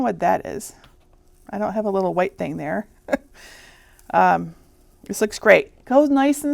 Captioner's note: chuckling